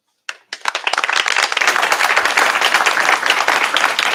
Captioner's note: applause